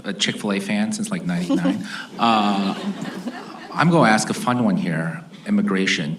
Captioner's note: laughter